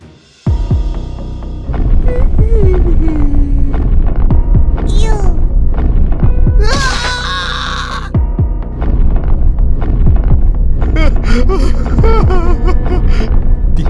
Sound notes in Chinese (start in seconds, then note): 1.9 哼歌; 10.9 哭泣